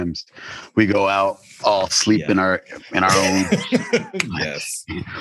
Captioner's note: laughs